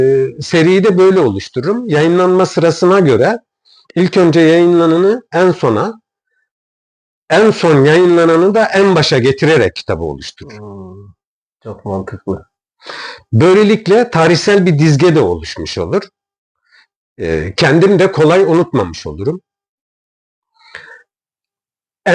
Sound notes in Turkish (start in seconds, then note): 10.5 homurdanır